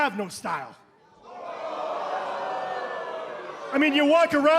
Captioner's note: crowd cheering